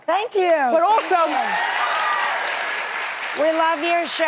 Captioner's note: audience applauding and cheering